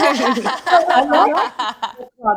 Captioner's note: group laughing